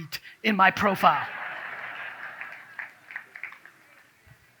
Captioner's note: audience claps